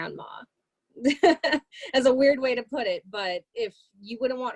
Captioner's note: laughter